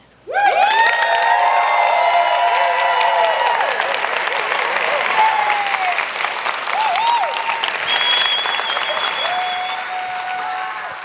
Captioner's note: applause